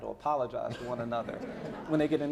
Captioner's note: laughing